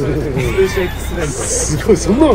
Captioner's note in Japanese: 効果音 シャキーン✨